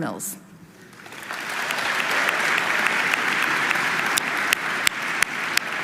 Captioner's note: audience applauding